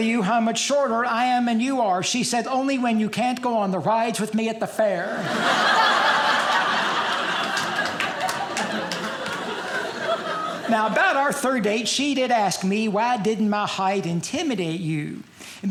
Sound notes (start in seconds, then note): 5.1 audience laughing